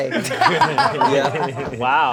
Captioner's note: all laughing